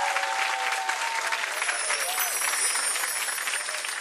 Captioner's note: chimes